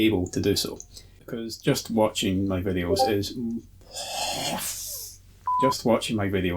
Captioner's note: swears at Discord going off in background *beep